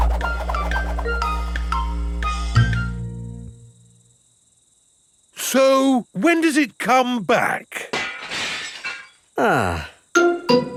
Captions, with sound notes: So when does it come back? (GLASS SHATTERS) Ah!